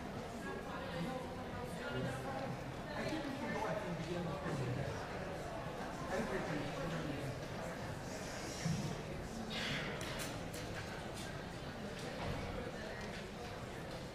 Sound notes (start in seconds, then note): 5.0 congregation chattering